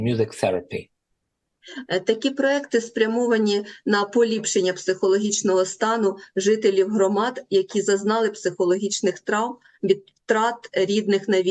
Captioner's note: foreign language